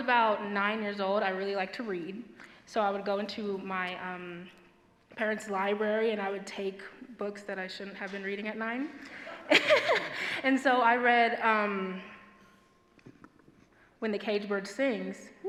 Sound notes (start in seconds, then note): 9.2 laughs